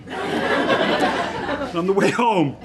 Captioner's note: audience laughs